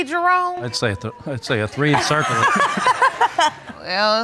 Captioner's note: stammering; audience laughing